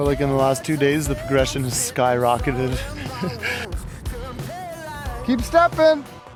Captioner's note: laughs